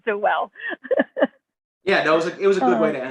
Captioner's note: laughter